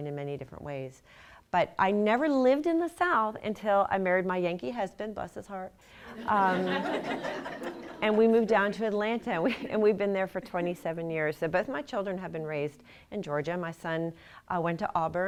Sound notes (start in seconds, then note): 9.4 laughter